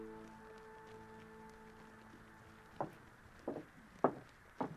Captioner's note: footsteps clattering